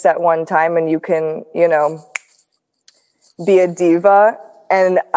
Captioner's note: snaps fingers